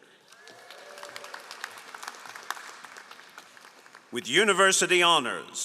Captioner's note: all applauding